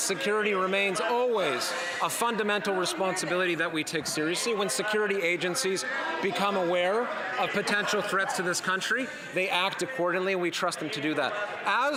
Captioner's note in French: voix de l'interprète